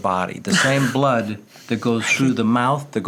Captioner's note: laughs